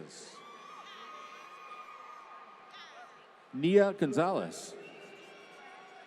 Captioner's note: applause